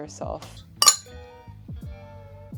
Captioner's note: glasses clinking